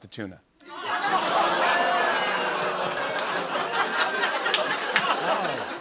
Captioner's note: audience "Oohs"; laughter